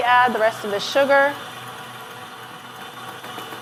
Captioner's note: whisking